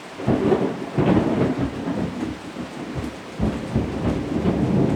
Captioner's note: thunder rumbling